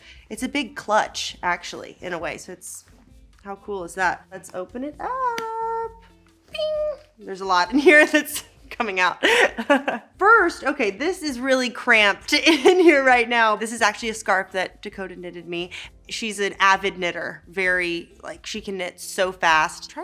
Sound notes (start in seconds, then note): 9.2 Elle laughing